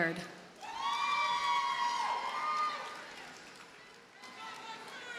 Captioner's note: audience cheers and applauds